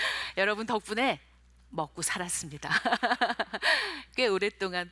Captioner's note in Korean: 웃음소리